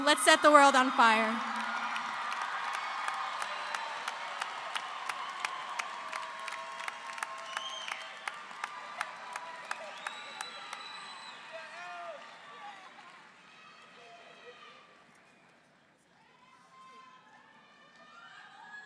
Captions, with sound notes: lets set the world on fire. (audience cheering) (audience applauding)